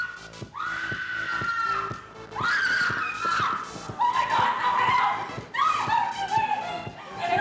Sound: screaming

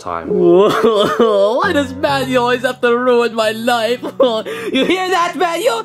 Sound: crying

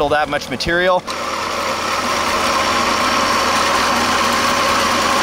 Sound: motor chugging

